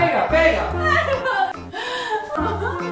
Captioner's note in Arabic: يضحك